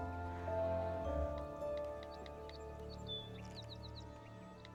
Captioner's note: bird sings